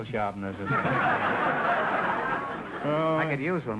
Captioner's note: audience laughter